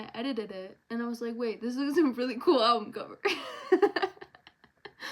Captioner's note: laughs